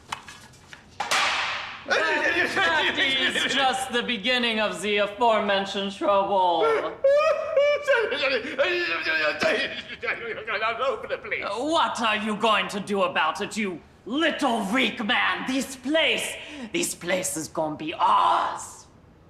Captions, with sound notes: (tray clanging) (uncle speaking gibberish) and that is just the beginning of the aforementioned trouble. - (uncle crying and speaking gibberish) all over the place. - What are you going to do about it, you little, weak man? This place, this place is gonna be ours.